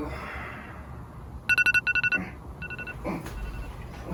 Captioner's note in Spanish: Suena alarma despertadora